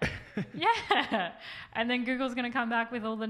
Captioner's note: laughs